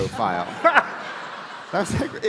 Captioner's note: audience laughing